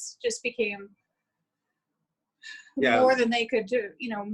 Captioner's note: sighs